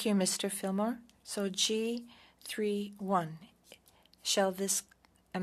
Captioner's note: speaking French